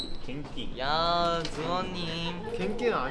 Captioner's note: hehe